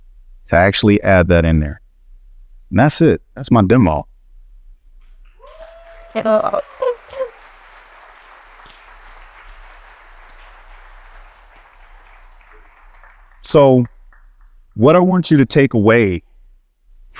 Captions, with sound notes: to actually add that in there. And that's it. That's my demo. (audience cheering) (he laughs) So what I want you to take away